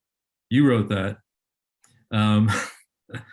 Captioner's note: chuckles